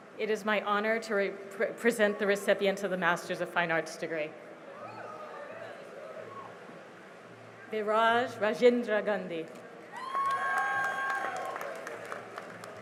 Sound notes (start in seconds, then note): 4.7 cheering; 9.9 cheering and applause